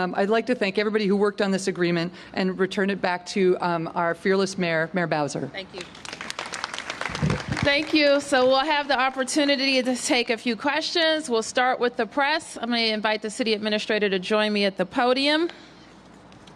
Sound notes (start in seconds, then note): 5.7 applause